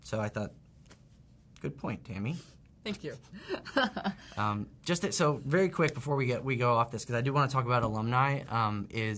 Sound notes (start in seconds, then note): 3.4 laughing